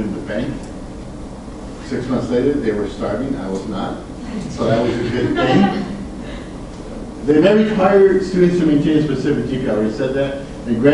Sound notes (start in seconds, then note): 4.7 students laugh